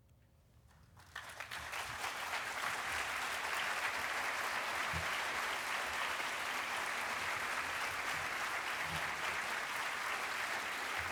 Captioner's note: applause